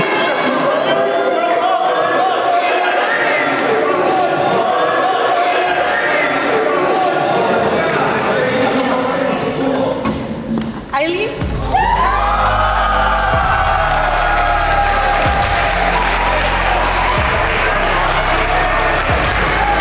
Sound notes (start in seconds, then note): 0.2 group chattering; 11.4 group cheers; 11.6 group applauds